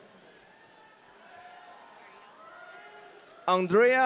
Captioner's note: audience cheering